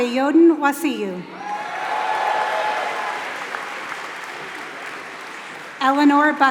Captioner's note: applause